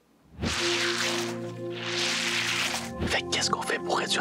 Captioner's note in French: bruissement